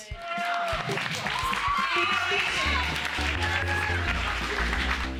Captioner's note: all applauding and cheering